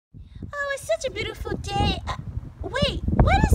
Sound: voiceover

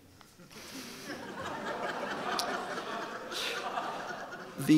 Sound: audience laughing

